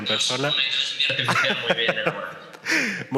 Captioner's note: he laughs